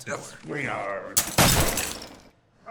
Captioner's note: gun fires